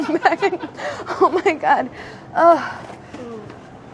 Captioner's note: laughs; sighs